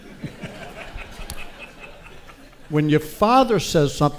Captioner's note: audience laughs